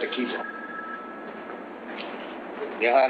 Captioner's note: phone ringing in distance